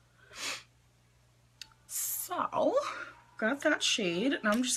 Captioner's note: sniffs